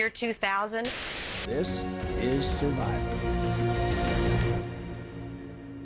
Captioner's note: soundbite of tv show, "survivor: cagayan"